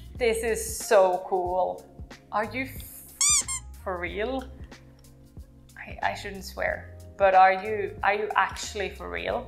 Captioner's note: squeak toy sound